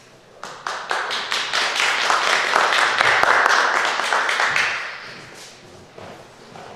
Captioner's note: applause